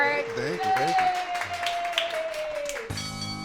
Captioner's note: everyone cheering; upbeat music; bell dinging